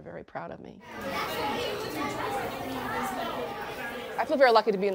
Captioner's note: children chartering